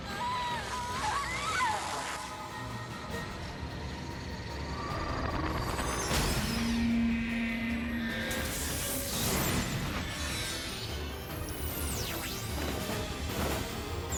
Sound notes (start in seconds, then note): 0.0 scream; 0.3 intense music and zaps; 5.8 explosions